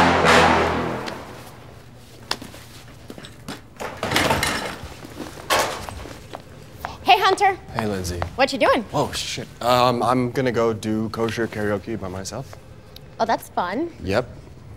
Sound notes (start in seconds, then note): 0.0 dramatic hip hop music; 2.7 footsteps shuffle; 3.8 chair thuds and rattles